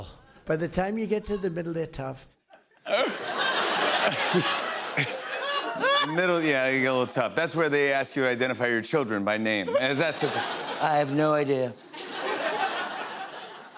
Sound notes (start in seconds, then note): 2.5 laughter; 10.5 as Trump; 11.8 laughter; 13.6 normal voice